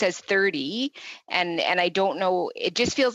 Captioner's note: speaking english